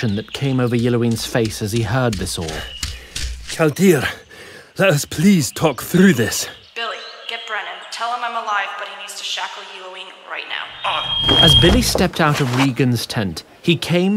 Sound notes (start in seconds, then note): 4.3 out of breath